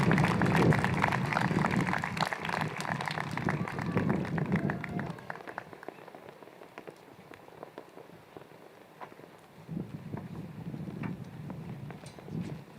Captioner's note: applause